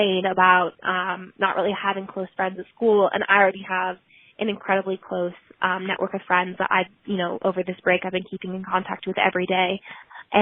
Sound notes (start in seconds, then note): none